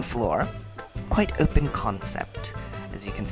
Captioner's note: bad English accent